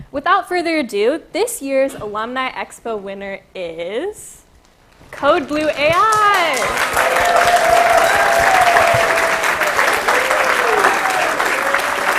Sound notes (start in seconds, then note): 5.2 applause